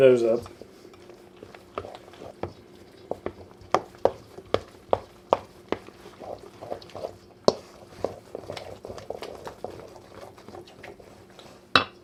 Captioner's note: wet, sucking, slurping, stirring noises